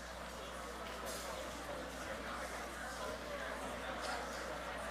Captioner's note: audience chattering